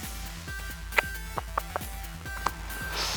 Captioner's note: clicks tongue